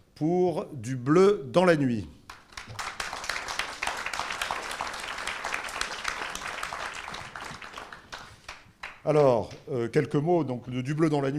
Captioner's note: applause